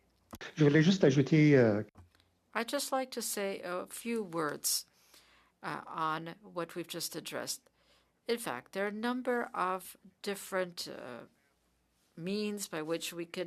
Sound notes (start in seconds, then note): 9.1 speaking French